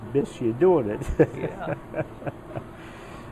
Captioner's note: laughs